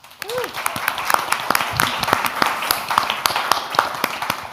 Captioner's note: audience applauds